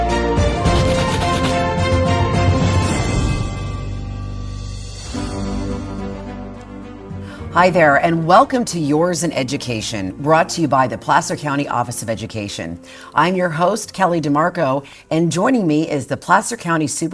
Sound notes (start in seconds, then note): 0.6 letters scribbling